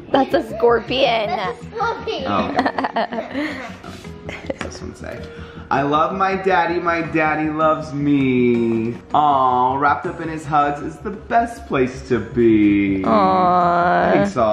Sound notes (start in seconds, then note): 2.3 laughs